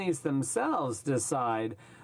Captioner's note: speaking in french